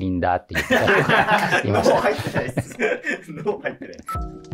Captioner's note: laughing